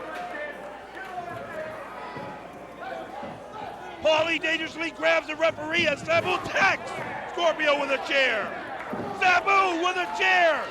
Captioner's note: crowd chatter